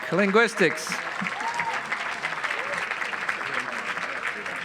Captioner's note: audience applauds